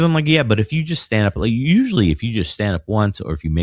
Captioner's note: uh